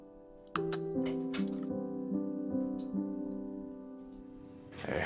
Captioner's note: door opening